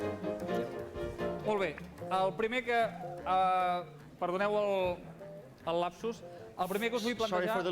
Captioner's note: non-english speech